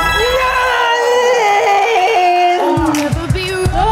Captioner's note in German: wütend